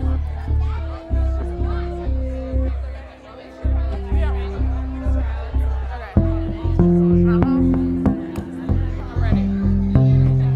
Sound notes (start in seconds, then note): 0.1 gentle music; 2.9 crowd chattering